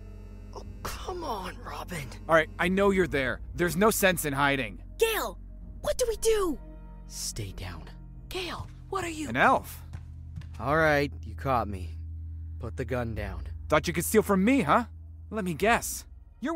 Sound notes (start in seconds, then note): 0.0 phones vibrates; 5.3 whispering; 8.8 whispering; 10.8 whispering